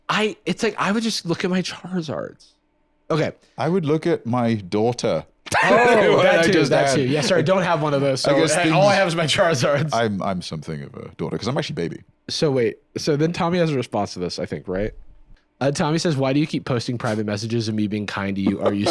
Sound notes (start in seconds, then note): 5.5 laughs